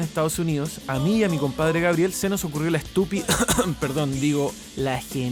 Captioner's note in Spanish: cof cof